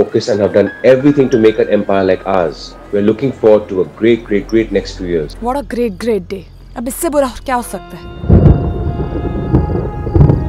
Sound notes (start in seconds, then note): 8.1 Clouds thundering